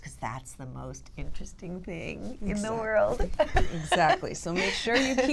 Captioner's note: laughter